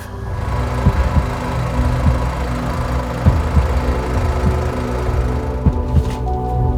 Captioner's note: motor rattling; dramatic music